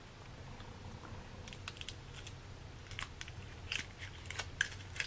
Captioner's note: paper crinkling